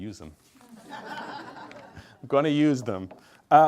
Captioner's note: group laughs